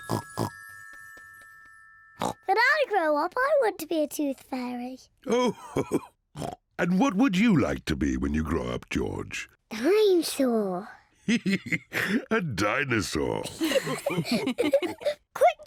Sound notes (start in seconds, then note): 0.1 oinks; 11.2 laughs; 13.4 all laugh